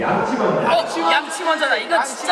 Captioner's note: all shout out brush first